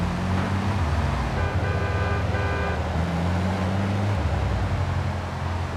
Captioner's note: horn honking